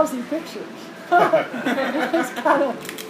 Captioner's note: laughter